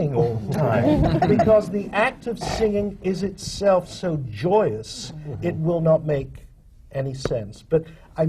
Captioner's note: laughter